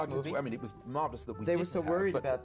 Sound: stuttering

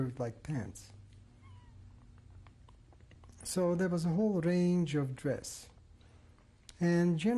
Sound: pauses for 3 seconds

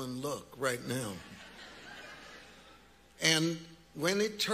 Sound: congregants laughing

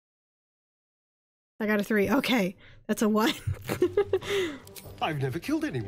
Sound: laughs

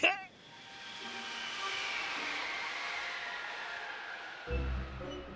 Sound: wind gusting

